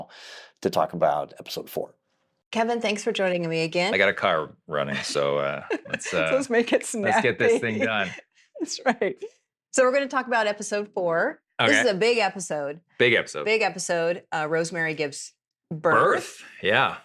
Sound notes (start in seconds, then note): 4.8 laughing